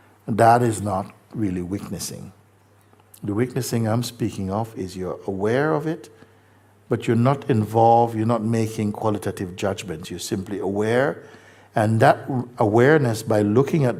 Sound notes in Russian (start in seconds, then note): none